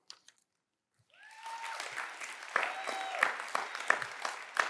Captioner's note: cheers and applause